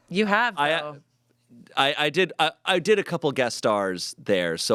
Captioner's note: none